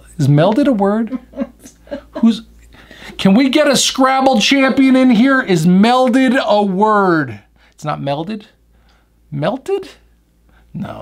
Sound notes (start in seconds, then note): 1.0 woman laughing